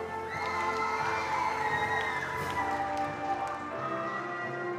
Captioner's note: attendees applauding